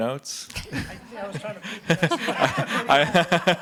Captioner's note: speaks faintly; everyone laughing